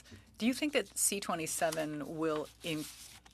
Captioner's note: speaking french